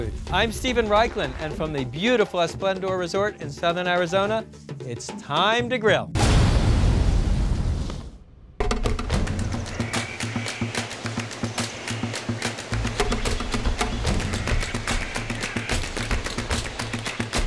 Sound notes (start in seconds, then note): 10.1 light drum music; 14.2 birds singing